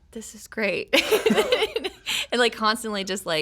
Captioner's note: laughing